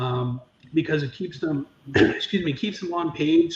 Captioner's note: clears throat